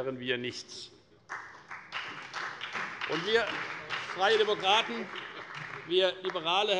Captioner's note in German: Beifall bei der FDP sowie bei Abgeordneten der CDU und der SPD